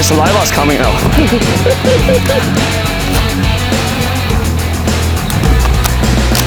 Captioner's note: group laughs